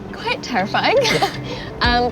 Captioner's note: laughing